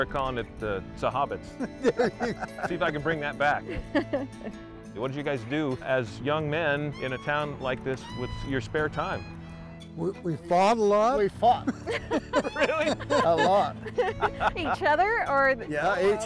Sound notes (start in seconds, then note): 11.6 laughing